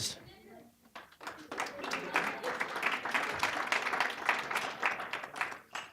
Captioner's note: applause